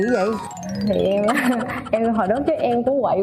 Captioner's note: chuckles